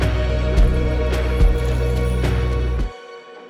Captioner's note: bike whizzes past